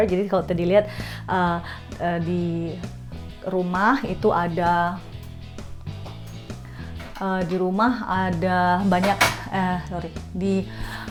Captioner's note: laugh